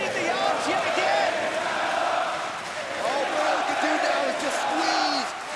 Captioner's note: crowd cheering